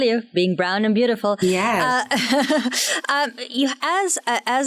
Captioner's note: laughs